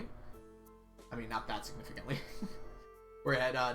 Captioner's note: laughs